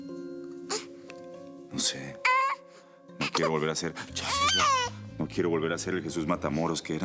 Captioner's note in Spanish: Llanto del bebé